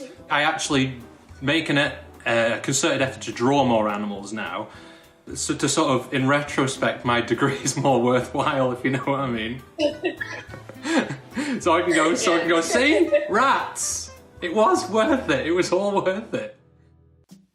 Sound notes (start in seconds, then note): 9.7 both laughing